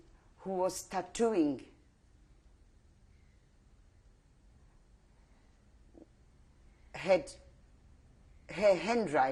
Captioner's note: pauses for 6 seconds